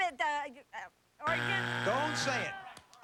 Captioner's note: buzzer